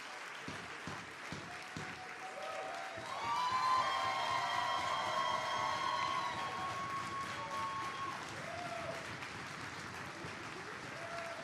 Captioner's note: applause